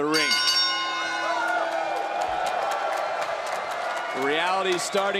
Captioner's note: bell rings